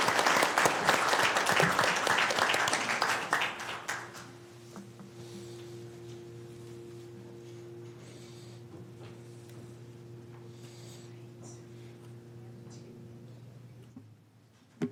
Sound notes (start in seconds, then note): 11.5 applause